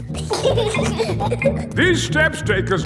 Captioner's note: giggling